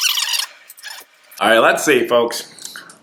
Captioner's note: rewinding Sound